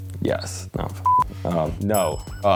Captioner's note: beep